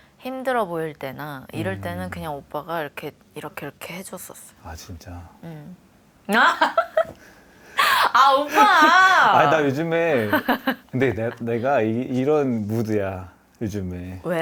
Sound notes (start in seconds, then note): 7.8 laughs